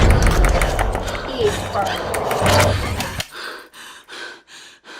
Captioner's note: distorted voice